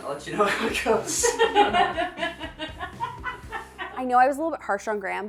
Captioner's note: all laughing